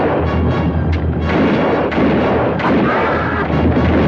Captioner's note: guns fire; Apache screams